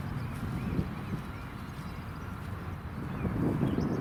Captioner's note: birds chirping